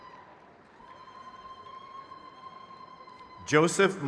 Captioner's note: crowd cheers